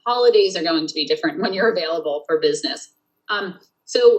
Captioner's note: laughs